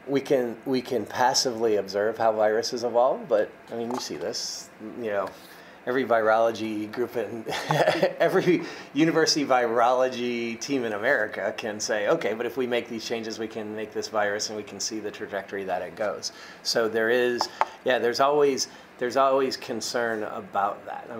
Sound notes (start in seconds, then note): 7.5 laughs